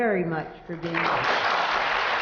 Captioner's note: applause